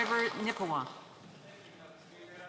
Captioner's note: applause